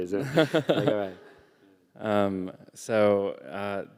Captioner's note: laughter